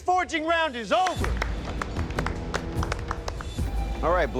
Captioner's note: applause